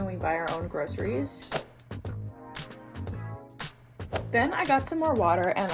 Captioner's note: text whooshing and clicking